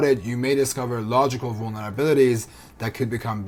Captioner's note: none